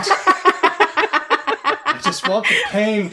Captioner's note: laughs; laughter